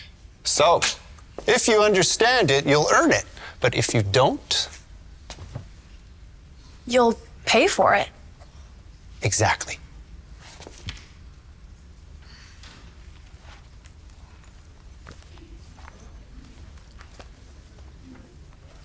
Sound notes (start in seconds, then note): 12.2 exhaling; 13.7 silence